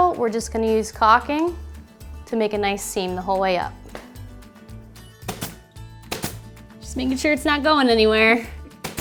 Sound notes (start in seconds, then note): 6.1 nail gun popping